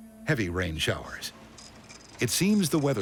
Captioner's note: printer chirping